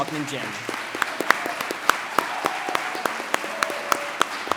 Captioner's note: audience applauds